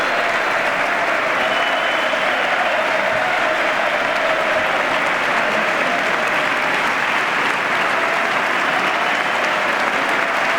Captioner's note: applause